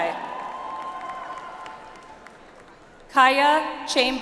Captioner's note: audience applauds